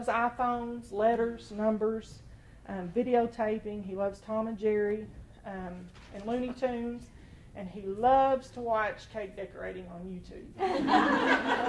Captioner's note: laughter